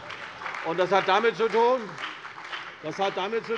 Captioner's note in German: Beifall bei der CDU und dem BÜNDNIS 90/DIE GRÜNEN